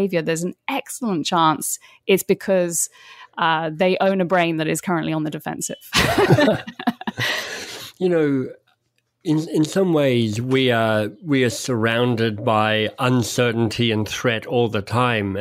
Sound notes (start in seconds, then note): 5.9 both laugh